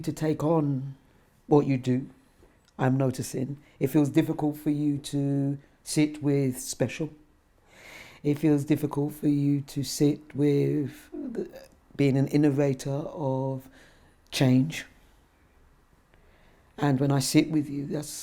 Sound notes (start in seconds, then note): none